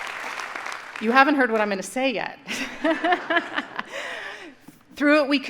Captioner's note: laughs